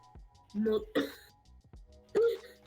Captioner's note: hhhhhh